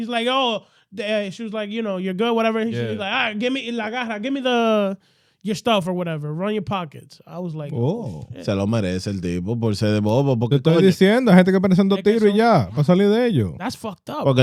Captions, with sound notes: like, oh, she was like, you know, you're good, whatever. She was like, give me the stuff or whatever, run your pockets. I was like, shit. (Speaking In Foreign Language) That's fucked up.